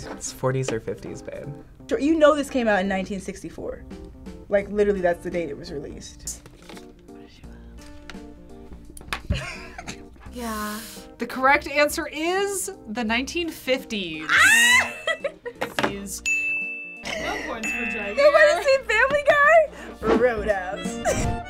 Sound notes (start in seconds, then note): 9.3 snickers; 14.2 squeals and laughs; 16.2 ding